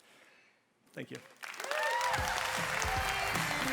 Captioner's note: applause